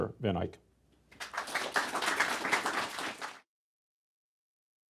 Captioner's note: applause